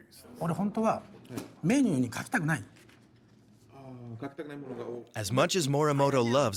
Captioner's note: speaking in foreign language